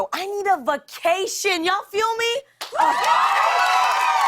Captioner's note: cheers and applause